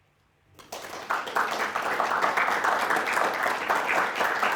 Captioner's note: audience applauding